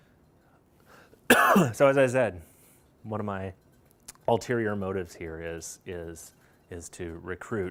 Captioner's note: coughs